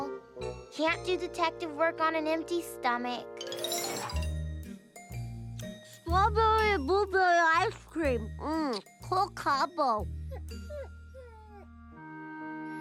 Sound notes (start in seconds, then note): 3.7 mouth full